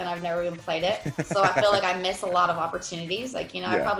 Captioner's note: laugh